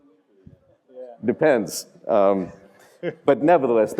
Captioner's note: laugh